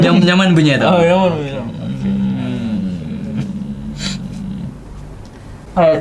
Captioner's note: moaning continues